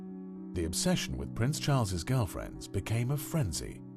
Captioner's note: voiceover